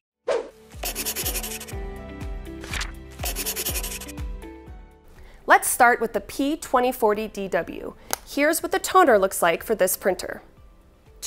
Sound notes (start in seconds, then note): 0.2 woosh; 0.8 pencil scratching; 2.6 paper rustling; 3.2 pencil scratching